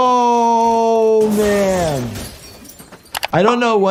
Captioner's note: glass shattering